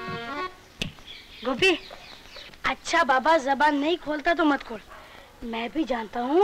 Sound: snaps finger

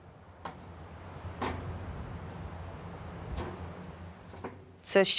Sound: footsteps in pipe

